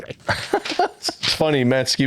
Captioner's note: laughing